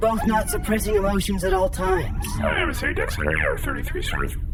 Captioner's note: half-muttered, aside